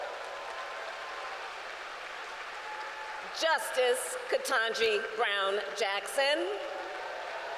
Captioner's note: applause